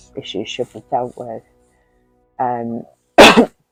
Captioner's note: coughs